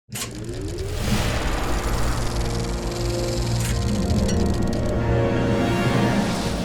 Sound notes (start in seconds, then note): 1.4 film projector spinning